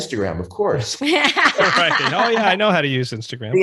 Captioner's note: presenters laughing